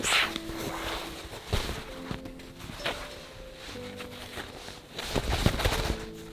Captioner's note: lively music; linen ruffling